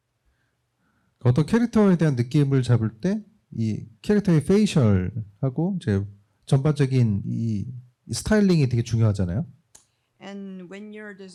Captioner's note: speaking korean